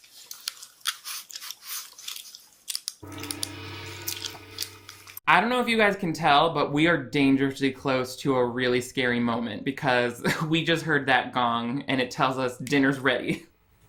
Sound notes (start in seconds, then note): 0.1 woman chewing loudly; 3.0 gong clangs